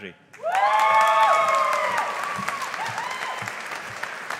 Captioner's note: audience applauding